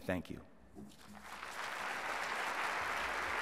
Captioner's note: applause